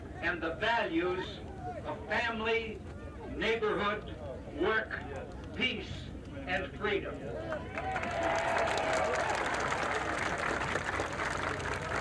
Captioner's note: cheers, applause